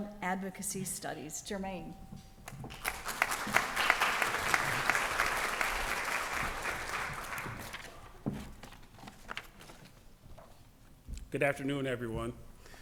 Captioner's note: applause